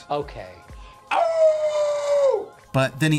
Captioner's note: howling